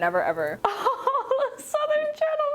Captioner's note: laughing